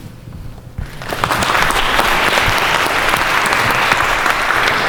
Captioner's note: audience claps